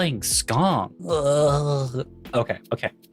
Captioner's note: groans